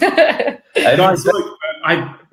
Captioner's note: laughing